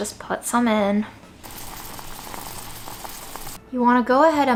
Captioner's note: water bubbling